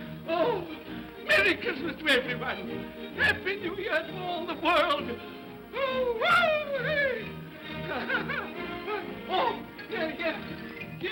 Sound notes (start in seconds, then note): 5.8 Scrooge whoops; 7.6 laughs